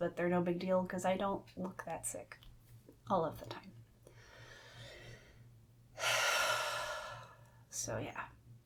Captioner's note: breaths deeply